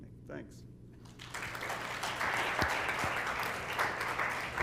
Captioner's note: applause